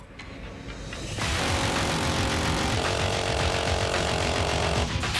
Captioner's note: rapid gunfire